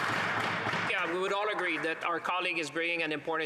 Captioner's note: applause